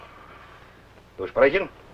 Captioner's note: foreign language